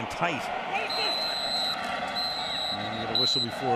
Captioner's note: whistling